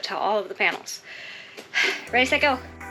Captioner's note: exhales and inhales